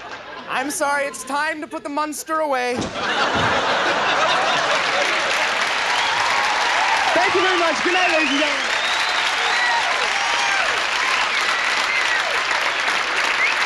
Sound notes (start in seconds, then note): 2.8 audience laughing; 4.6 audience cheering and applauding; 9.1 audience cheering and applauding